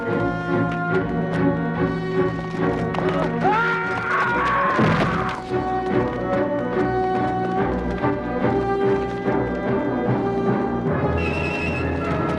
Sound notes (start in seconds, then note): 3.2 guard screams